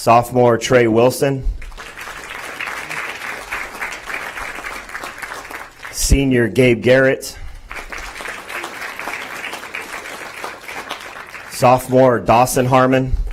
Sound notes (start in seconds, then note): 0.0 applause; 7.5 applause; 13.1 applause